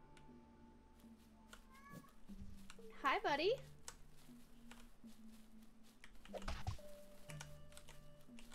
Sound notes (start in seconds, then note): 1.7 meow